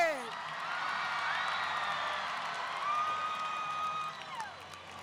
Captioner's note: audience cheering